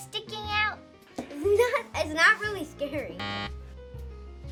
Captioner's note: buzzer